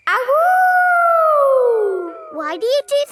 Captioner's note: howling